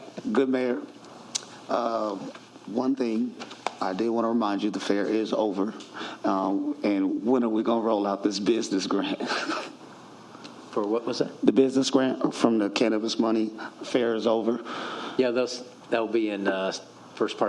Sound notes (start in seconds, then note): 2.8 laughter